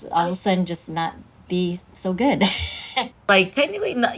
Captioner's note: laughs